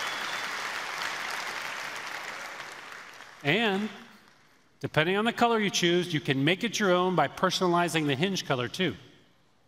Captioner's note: applause